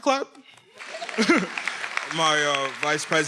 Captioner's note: attendees applauding